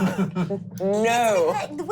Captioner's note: laughing